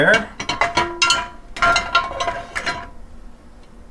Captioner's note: dishes clanking